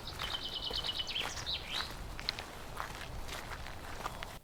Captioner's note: birds chirping